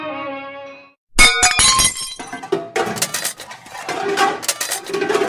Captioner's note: kitchen - Rattling noise